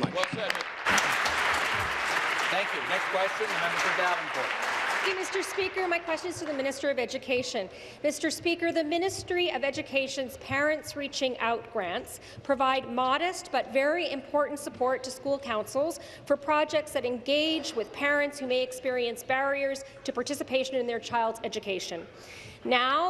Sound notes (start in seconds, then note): 4.2 applause